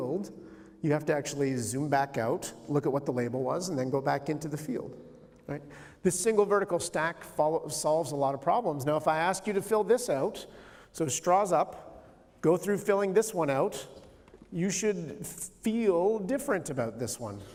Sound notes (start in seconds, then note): none